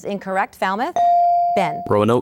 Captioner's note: ding